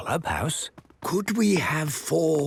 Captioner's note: speaking quietly